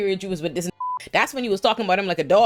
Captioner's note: beep